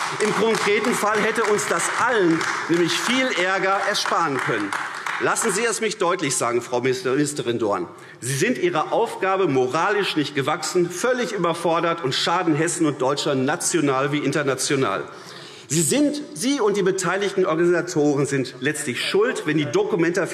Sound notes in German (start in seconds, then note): 4.6 Beifall AfD